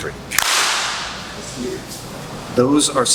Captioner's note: clap